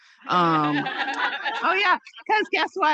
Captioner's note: participants laughing